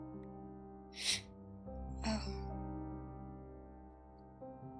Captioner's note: inhales